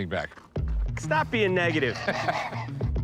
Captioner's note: laughs